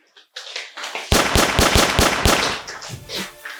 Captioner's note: gun shots